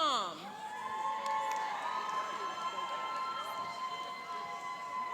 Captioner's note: cheering and applauding